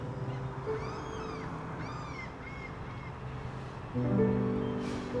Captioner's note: distant bird calls